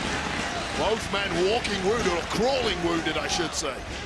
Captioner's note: audience cheering